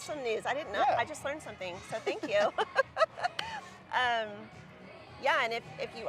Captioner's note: chuckles